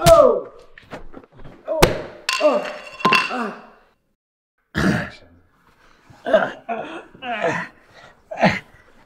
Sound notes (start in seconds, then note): 2.5 Mr. Libson grunts; 5.0 Mr. Libson groans